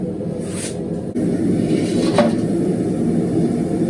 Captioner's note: burning sound